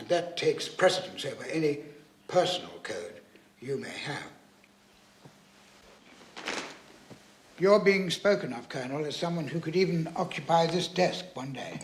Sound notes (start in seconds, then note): none